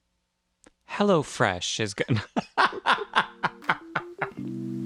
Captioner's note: laugh